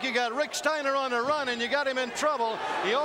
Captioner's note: crowd chatter